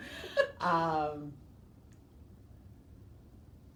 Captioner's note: laughing